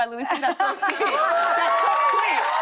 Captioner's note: laughter; cheers and applause